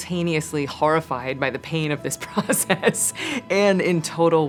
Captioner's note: laughs